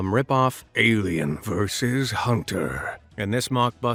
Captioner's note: in a dramatic voice